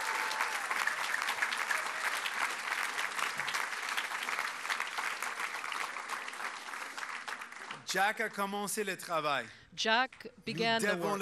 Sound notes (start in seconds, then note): 0.0 cheers and applause